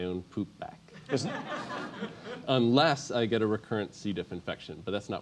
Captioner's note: laugh